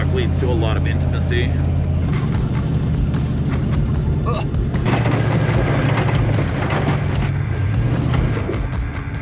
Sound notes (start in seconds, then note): 2.2 upbeat rock music; 2.5 engine rumbling